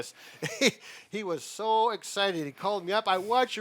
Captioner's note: chuckles